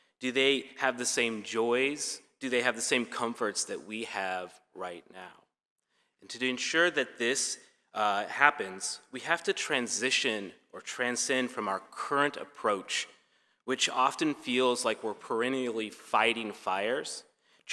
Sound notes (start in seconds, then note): none